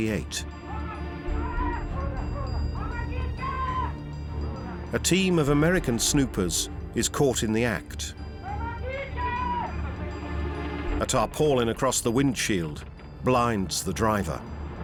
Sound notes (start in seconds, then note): 0.7 soldiers shouting